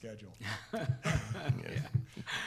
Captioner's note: laughing